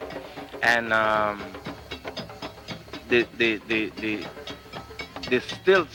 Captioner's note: stutters